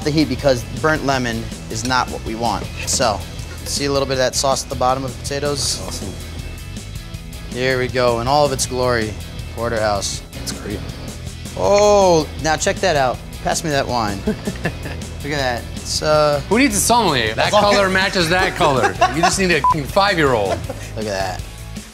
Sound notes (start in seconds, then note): 14.1 laughs; 17.4 laughs